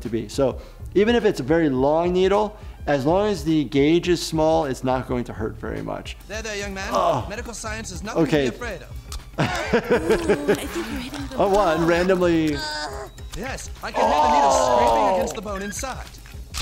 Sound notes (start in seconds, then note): 6.8 groans; 9.4 laughing; 12.5 groans